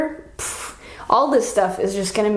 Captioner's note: puffs